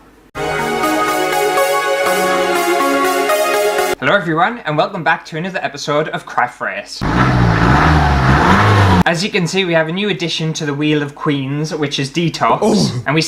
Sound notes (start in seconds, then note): 0.3 intro Music; 7.0 engine Revs